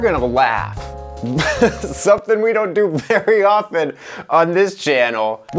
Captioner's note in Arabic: يضحك